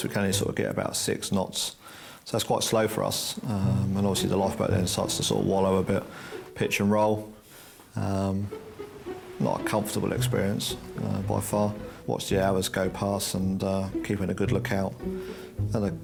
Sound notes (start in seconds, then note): 8.5 water splashing